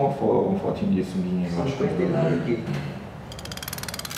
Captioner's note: background voices in portuguese